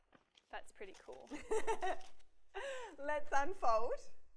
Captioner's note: laughs